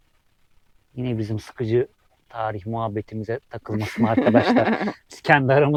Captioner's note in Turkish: kahkaha